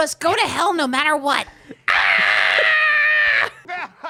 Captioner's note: Timmy voice; screaming; evil laughter